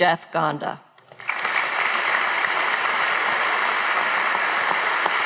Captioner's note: audience applauding